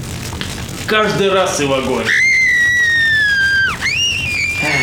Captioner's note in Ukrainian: крики